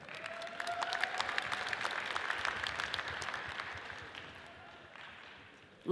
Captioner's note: audience cheers and applauds